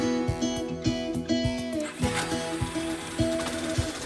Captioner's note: bike engine starts